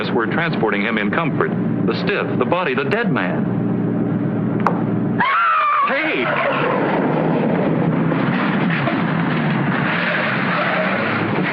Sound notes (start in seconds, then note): 5.2 screams